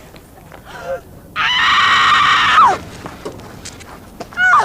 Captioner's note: gasps and screams